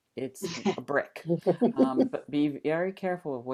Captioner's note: laughter